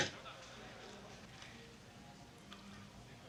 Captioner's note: chuckles